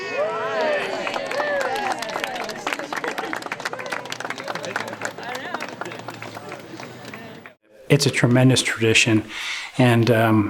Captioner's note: applause